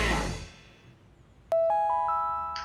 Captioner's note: notification sound